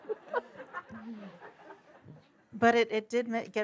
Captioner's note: laughter